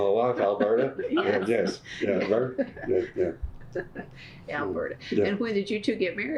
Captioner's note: laughter